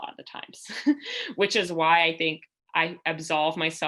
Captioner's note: laughter